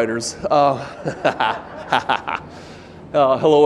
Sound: laughs; audience laughing

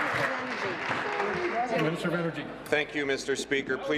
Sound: applause

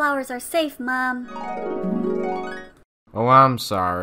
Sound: flashback Sound

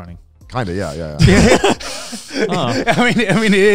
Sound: laughing

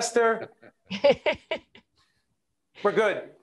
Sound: laughing

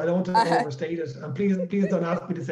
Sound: laughing

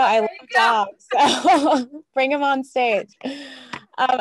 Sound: laugh

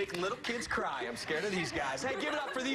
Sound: laughter

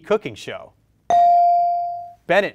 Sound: bell rings

